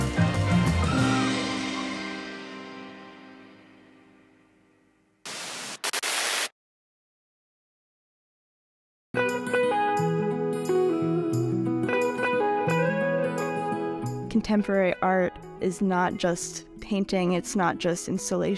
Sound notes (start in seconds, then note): 5.2 static crackling; 8.1 gentle music